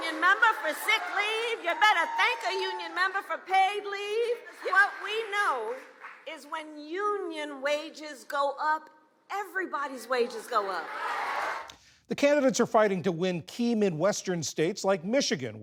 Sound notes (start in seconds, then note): 10.8 cheering; 11.1 applause